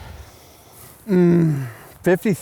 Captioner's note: groans